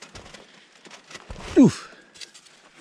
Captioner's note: leaves rustling